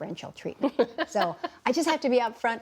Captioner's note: laughter